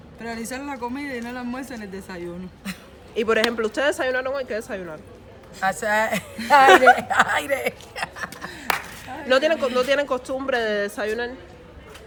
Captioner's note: laughs